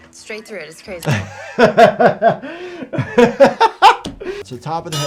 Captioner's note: laughing